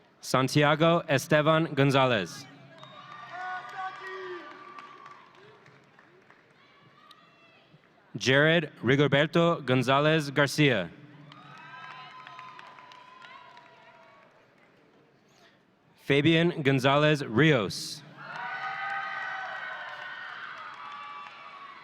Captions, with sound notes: Santiago Estevan Gonzalez. (audience cheering) Jared Rigoberto Gonzalez Garcia. (audience cheering) Fabian Gonzalez Rios. (audience cheering)